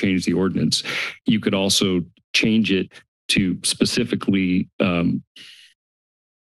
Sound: inhales

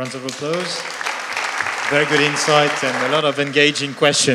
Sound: applause

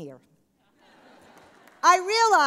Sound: laughter

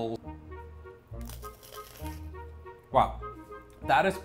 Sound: apple crunches loudly

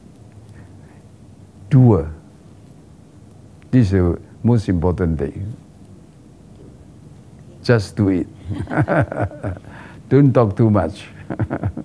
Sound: both laugh

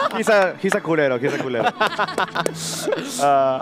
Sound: laughs

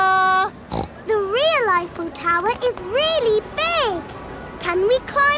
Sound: snorts

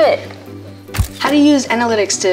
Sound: camera snapshot

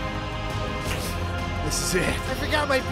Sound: wet slurp

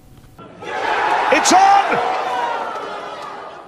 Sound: crowd cheering

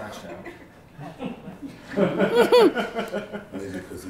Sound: laughing

